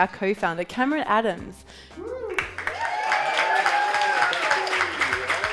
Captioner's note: audience cheering